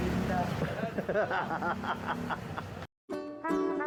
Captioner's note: laughs